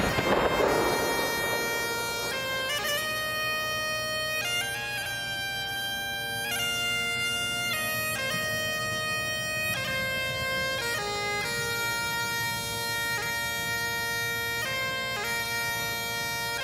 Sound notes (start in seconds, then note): 0.0 playing of the piper's lament; 3.1 gunfire